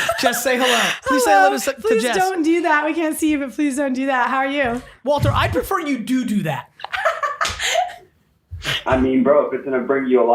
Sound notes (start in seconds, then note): 6.8 laughing